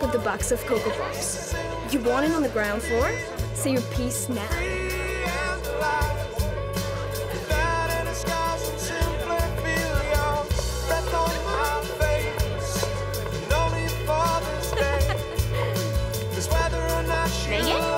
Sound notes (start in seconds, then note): 6.2 crowd chattering; 14.3 Sunny laughing